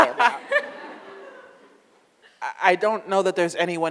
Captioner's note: audience laughs